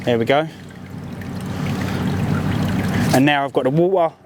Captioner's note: water gurgling